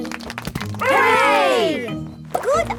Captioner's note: crowd applauding